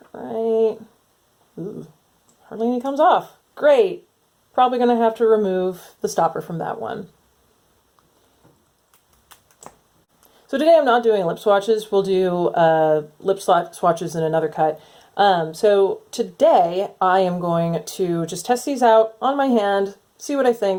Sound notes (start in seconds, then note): 3.6 sarcastic